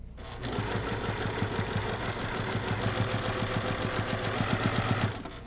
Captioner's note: sewing machine churning